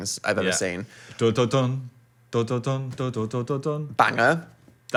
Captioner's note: hums ominously